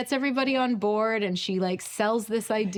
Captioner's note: none